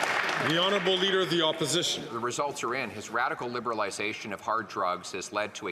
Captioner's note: some Applause